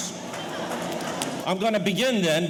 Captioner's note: audience laughing